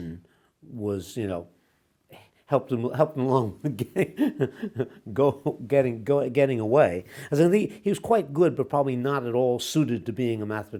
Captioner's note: laughs